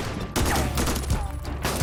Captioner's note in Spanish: Disparos